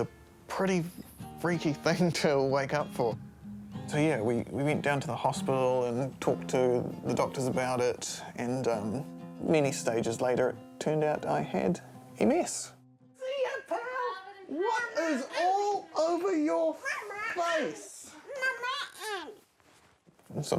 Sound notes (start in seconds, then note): 13.3 exclaims; 18.3 babbles